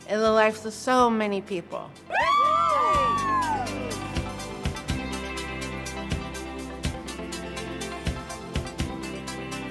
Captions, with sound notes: in the lives of so many people. (cheers) (bright music)